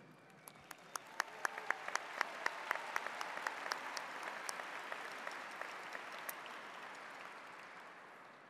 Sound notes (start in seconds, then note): 0.2 audience applauds